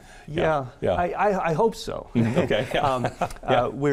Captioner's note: laughing